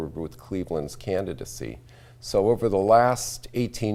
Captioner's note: none